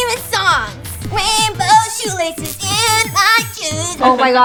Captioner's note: robotic sound